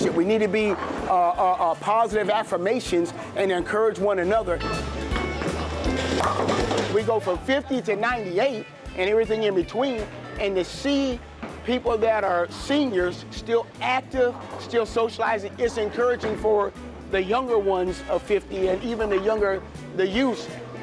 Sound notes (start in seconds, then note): 4.5 upbeat music; 5.1 pins rattling